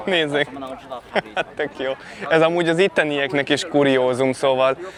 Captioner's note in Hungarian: nevetés